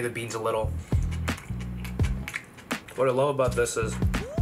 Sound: chewing

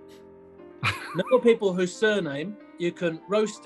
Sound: sniggering

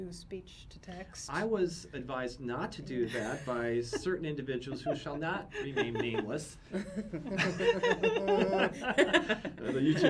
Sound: laughs

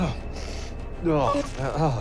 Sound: sighs

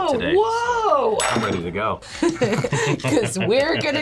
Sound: both laugh

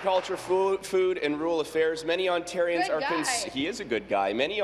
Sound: applause

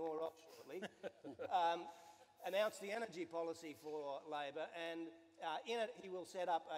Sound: some laughter

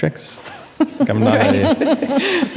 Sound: audience and speakers laugh

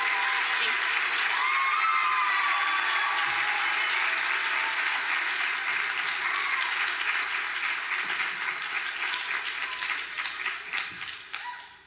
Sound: applause

